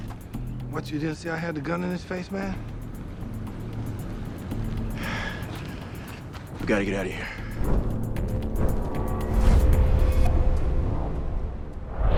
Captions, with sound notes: What you didn't see I had the gun in his face, man? ( DISTANT SIRENS APPROACHING ) We gotta get out of here.